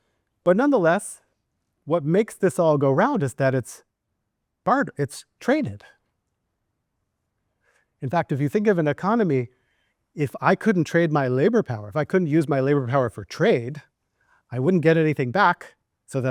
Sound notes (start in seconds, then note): none